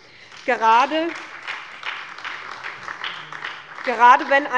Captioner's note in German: Beifall bei der SPD